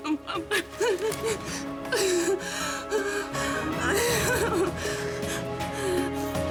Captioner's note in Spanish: Sollozos